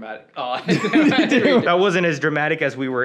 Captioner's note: both laughing